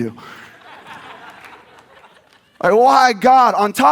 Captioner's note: audience laughs